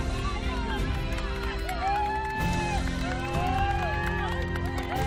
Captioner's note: chatter; cheering